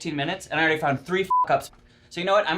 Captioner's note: beep